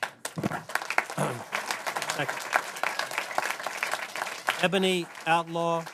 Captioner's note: applause